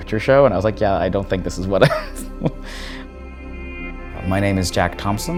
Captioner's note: laughs